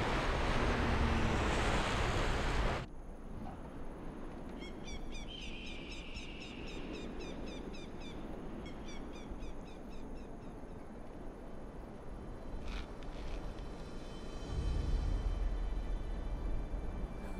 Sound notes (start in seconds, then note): 4.6 birds calling; 14.3 dramatic orchestral music